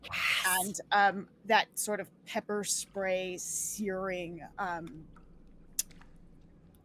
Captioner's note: laughs